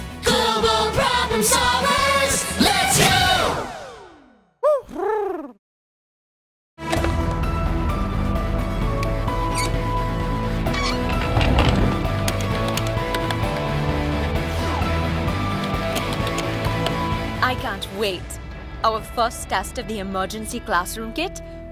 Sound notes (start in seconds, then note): 4.5 Huti hoots; 6.8 upbeat music